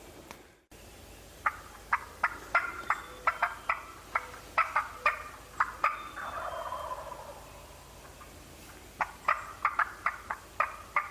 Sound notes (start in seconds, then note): 1.5 imitates gobbling